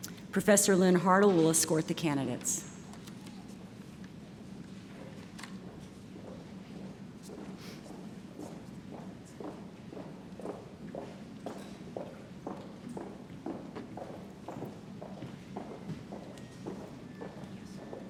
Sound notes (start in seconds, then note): none